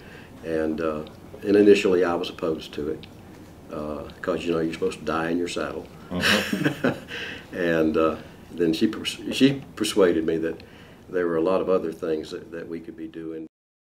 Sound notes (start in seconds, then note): 6.0 laugh